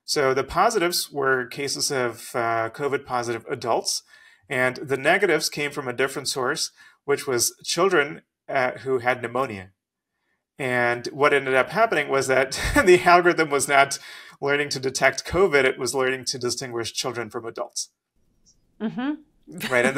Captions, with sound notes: So the positives were cases of COVID-positive adults, and the negatives came from a different source, which was children who had pneumonia. And what ended up happening was that (laughs) the algorithm was not learning to detect COVID, it was learning to distinguish children from adults, right?